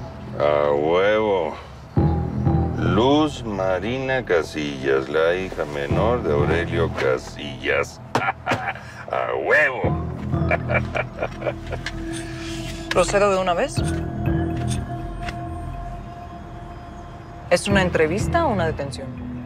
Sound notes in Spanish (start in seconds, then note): 8.1 Carcajadas; 10.3 Risas